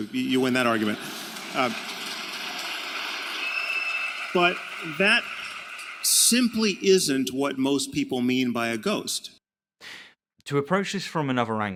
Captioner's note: applaud